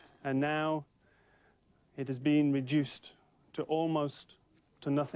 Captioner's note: none